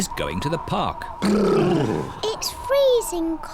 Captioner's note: all shiver